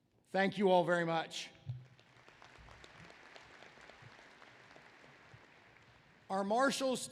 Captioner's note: applause